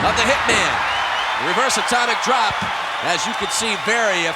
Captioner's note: audience cheering